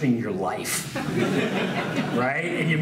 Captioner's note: laughs